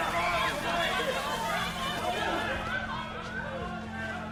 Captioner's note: mob shouting again; screams